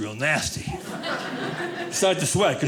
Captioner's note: audience laughing